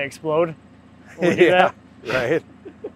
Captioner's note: laughing